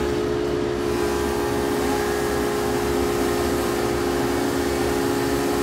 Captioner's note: machine whirring